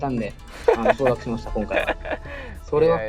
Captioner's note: Okazaki laughs